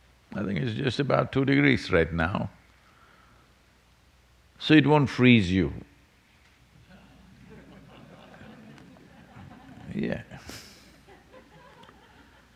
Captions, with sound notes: I think it’s just about two degrees right now. So, it won't freeze you. (Laughter) Yeah.